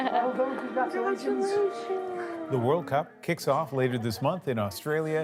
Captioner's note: applause